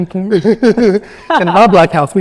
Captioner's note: laughing